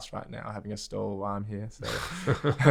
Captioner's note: laughs